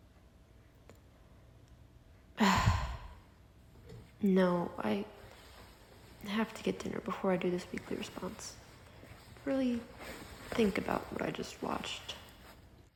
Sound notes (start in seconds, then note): 2.4 sigh